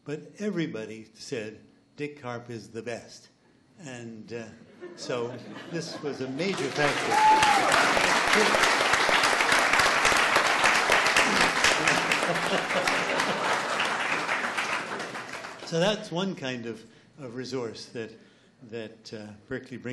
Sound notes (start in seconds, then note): 4.8 laughs; 7.3 cheers and applauds